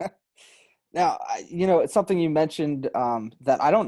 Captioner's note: laughs